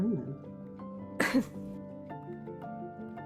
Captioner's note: ROSE clears her throat